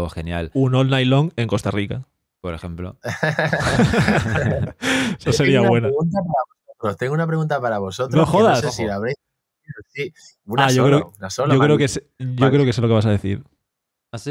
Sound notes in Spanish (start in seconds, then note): 3.0 risas